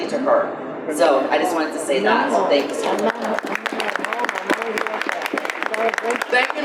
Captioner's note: audience applause